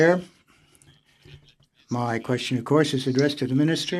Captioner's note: speaking French